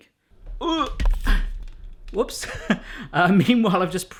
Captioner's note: grunts